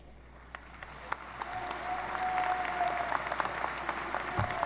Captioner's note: audience applauding